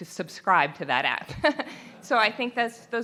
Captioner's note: laughter